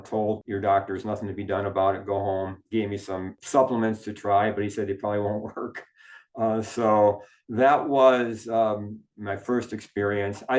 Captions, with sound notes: told, your doctors, "Nothing to be done about it, go home." Gave me some supplements to try, but he said it probably won't work. (chuckles) So that was my first experience.